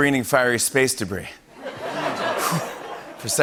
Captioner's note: laughter